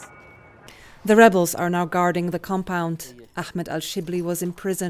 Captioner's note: voice-over